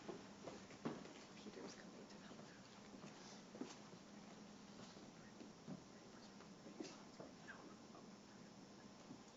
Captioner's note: background Discussion